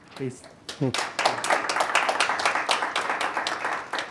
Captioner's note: applause